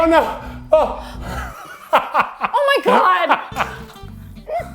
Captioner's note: laughs